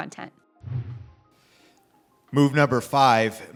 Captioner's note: screen whooshes